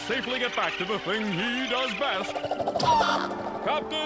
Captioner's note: bird squawks